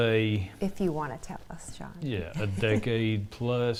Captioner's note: laughs